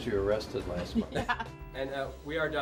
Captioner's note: laughter